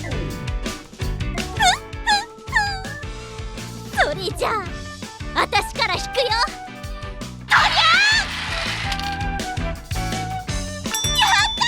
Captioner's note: spins and marble plunks out